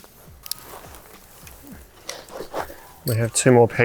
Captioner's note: pegs clacking